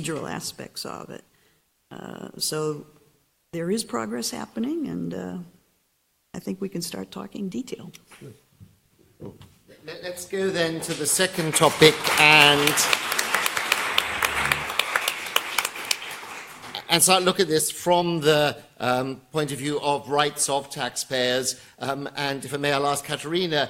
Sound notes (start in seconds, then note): 10.5 applause